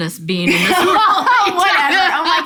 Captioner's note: both laugh